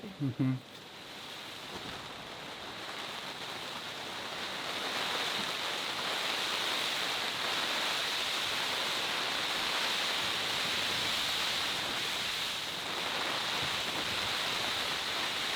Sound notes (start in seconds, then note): 1.5 wind blows